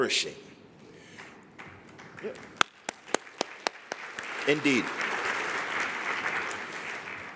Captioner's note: applause